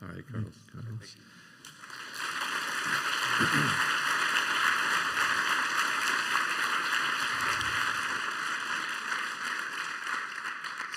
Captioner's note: applause